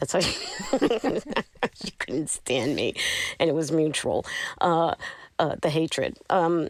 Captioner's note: laughter